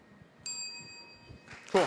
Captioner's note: bell dings